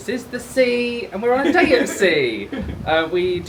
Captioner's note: laughing